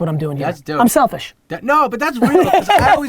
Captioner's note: laughs